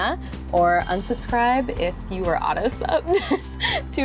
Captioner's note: giggles